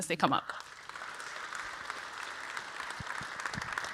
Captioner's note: audience applauds